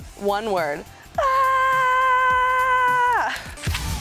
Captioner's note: mimics screaming